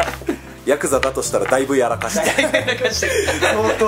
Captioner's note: laughs